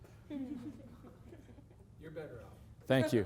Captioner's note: laughter